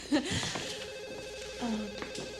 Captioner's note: phone ringing